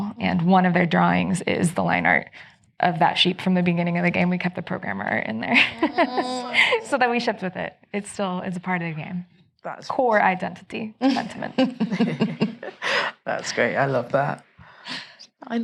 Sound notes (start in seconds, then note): 5.5 laughs; 11.5 chuckling